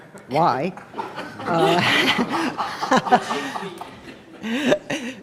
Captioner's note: laughing